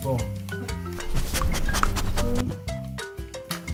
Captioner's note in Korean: 킁카킁카